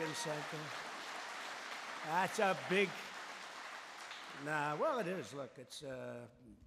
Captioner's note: applause